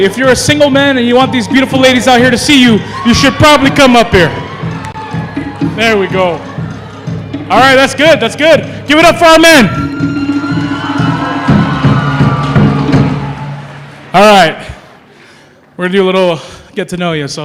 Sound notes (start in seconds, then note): 10.4 applause